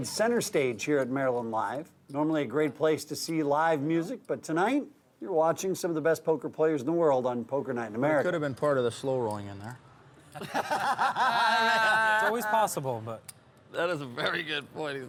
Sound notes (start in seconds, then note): 10.3 laughing